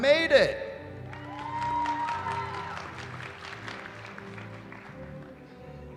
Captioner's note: cheering